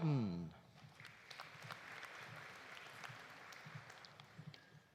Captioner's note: audience applauding